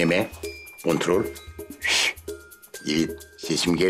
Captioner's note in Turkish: Islık sesi